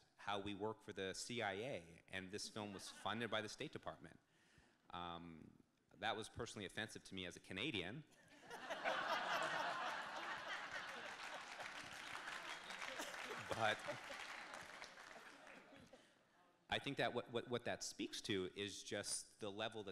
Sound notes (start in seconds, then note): 8.4 audience laughs; 12.1 audience claps